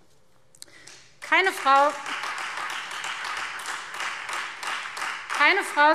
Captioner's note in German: Beifall Freie Demokraten und vereinzelt SPD